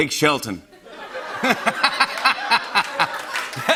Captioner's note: laughter